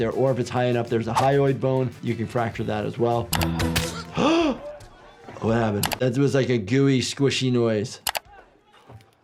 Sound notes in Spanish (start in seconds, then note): 4.0 Thanos gruñe; 4.0 El doctor de urgencias jadea